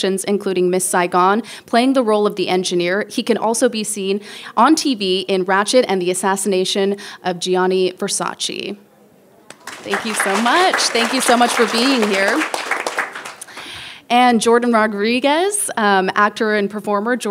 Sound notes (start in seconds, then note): 12.7 people applauding